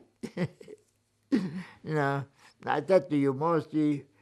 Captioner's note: laughing